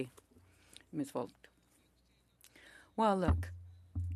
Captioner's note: speaking French